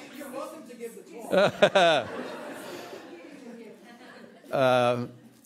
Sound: laughter

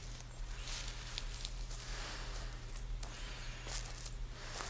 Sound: muffled heavy breathing; leaves crunch underfoot

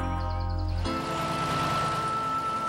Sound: engines Running

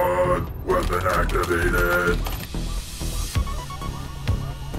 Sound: control board clacking; staccato synth music

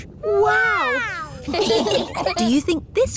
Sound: laughing

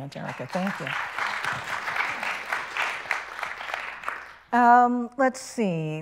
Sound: people clapping

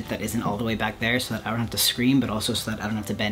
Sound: none

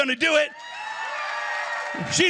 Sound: applause

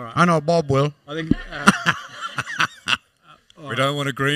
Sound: laughter

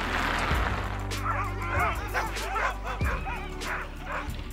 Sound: jappements

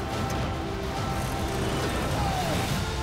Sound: yells

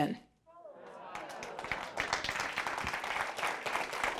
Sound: audience applause

